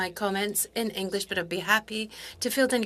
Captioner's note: speaking French